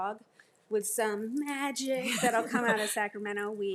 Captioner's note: group laughs